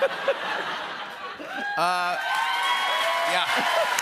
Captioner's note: laughter; cheers and applause